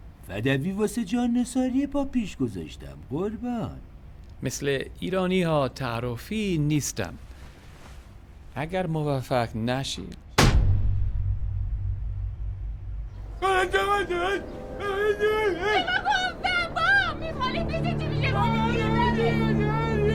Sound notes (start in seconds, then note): 10.4 thud; 13.2 murmuring, shouting